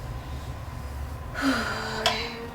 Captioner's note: sighs